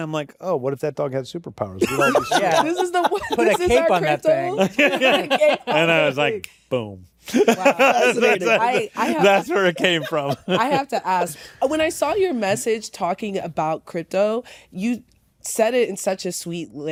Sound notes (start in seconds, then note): 1.8 laughter; 7.2 laughter